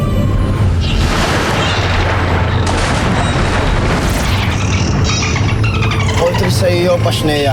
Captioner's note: majestic music playing; squeaks & squawks; water splashing